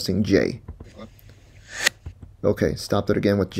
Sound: backwards audio

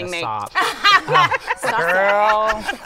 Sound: laughter

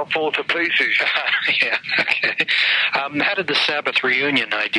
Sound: laughing

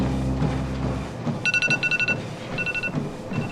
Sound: alarm clock

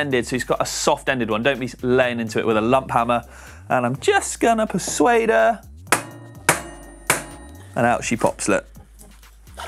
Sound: banging

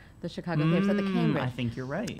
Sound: humming drowns out speaker

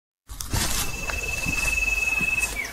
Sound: footsteps

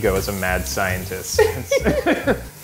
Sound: laughter

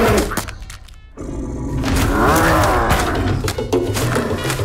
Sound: grunting

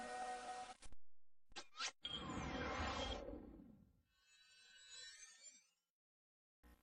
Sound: digital sounds

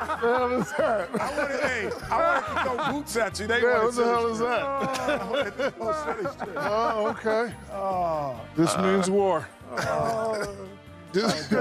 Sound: laughter

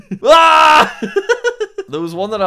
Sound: laughs

